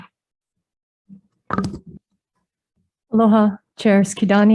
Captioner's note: chair squeaking